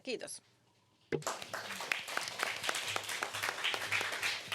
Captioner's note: applause